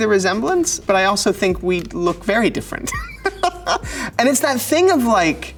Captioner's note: laughs